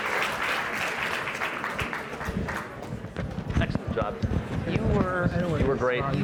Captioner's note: applause